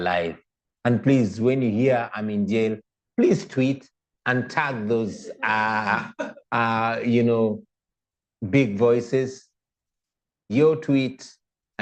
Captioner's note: laughter